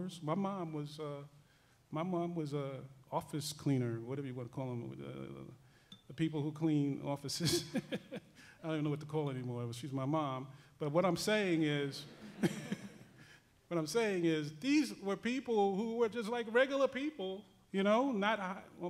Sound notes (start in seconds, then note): 7.9 laughs; 12.1 laughing